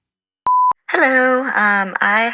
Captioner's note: beep